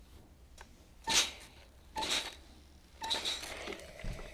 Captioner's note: iron clanks